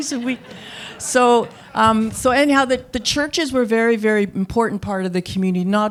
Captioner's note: laughter